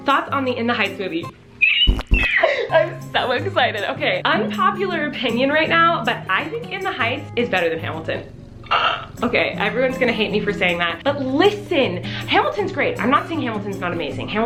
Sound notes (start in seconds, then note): 1.6 squeals; 8.2 gasps